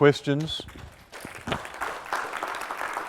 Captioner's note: applause